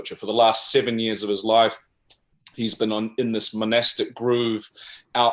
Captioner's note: none